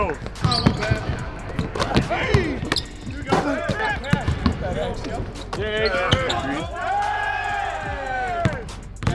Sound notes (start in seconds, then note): 2.7 shoes shuffling; 5.8 group cheering